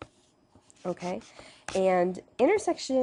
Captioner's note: pen scribbling